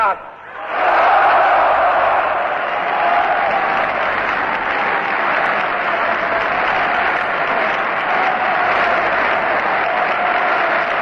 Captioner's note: screams: "Yes", Applause